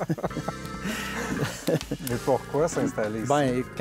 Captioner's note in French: rires